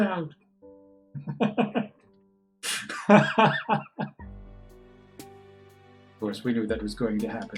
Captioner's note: laughs